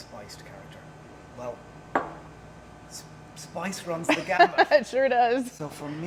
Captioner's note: laughing